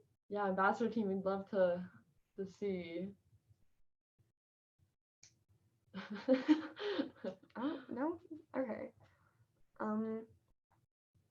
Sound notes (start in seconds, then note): 6.0 chuckling